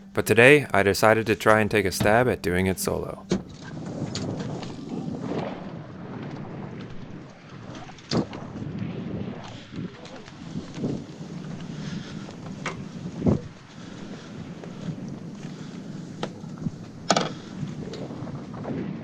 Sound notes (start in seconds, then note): 4.3 wind whooshing